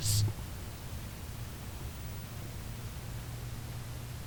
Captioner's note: TV static